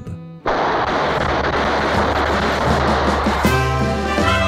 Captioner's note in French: nombreux coups de feu